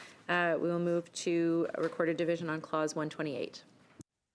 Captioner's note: speaking French